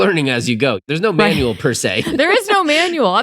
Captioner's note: laughs